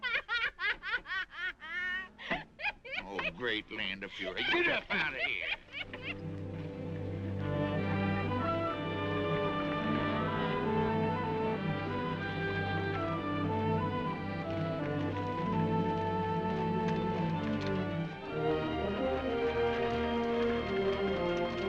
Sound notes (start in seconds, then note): 0.0 both laughing; 5.6 both laughing; 7.1 gentle upbeat music; 14.1 horse hooves clopping; 18.0 gentle upbeat music; 21.4 horse hooves clopping